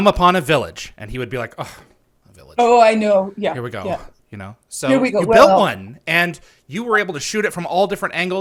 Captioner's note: sighs